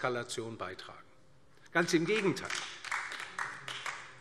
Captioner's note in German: Beifall DIE LINKE